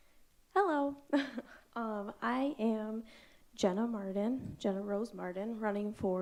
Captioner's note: chuckles